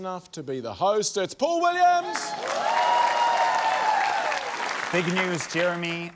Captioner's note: cheering, applause